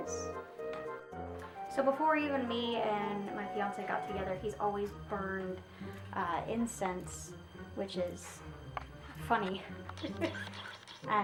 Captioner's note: laughs